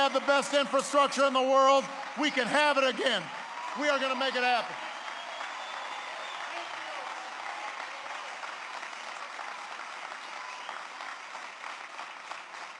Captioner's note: applause